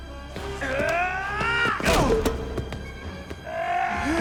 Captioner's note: Gammon yelling